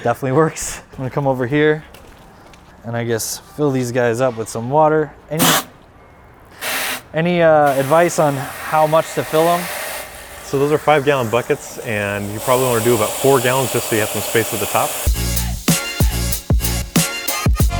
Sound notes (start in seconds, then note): 5.4 spray splashing; 15.1 upbeat music